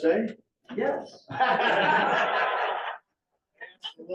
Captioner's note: laughter